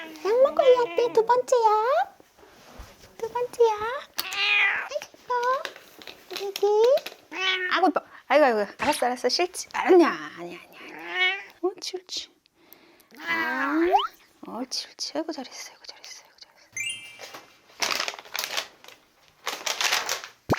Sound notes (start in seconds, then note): 7.3 meow